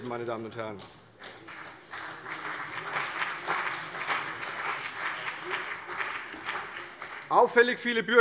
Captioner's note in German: Beifall CDU und BÜNDNIS 90/DIE GRÜNEN